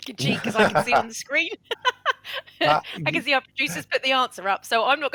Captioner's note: laughs